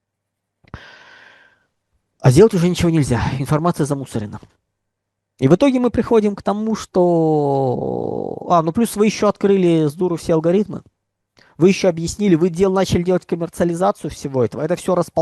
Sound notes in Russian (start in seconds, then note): 0.6 тяжело вздыхает; 0.7 вздыхает